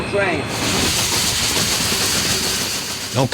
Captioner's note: steam swooshing